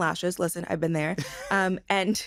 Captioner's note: chuckles